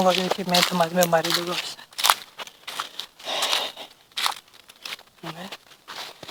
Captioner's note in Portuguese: expira forte